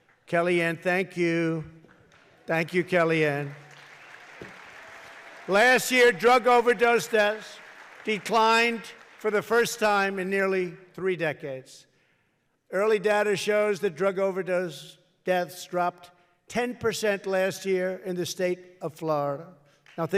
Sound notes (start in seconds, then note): 1.8 applause